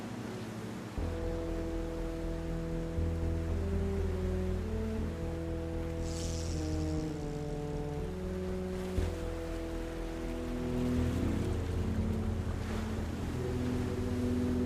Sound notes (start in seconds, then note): 0.2 waves splashing; 6.1 fishing pole ticking